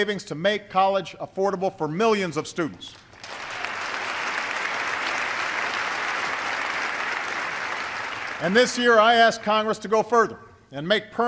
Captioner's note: applause